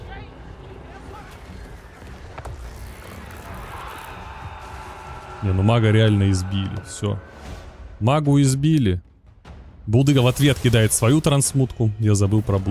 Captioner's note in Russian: крик